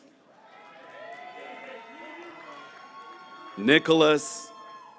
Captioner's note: graduates cheering